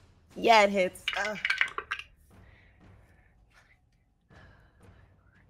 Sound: dice clatter

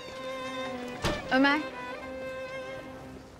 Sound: door closing sound

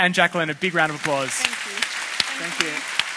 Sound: applause

